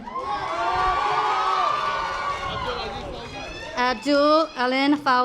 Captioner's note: audience applause